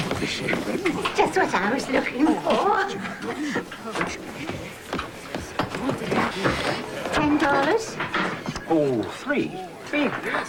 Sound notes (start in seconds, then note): 3.9 mixed chatter